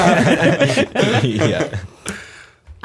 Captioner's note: laughter